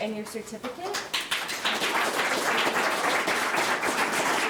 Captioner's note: audience clapping